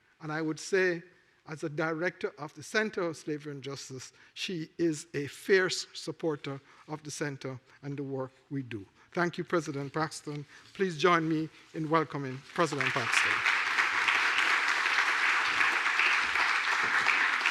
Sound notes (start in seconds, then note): 12.3 applause